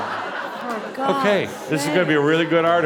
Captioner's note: laughter